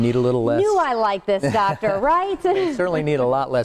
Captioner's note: laughs